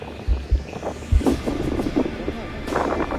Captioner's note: swoosh, swoosh!